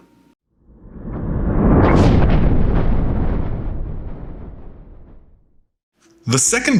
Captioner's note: thunder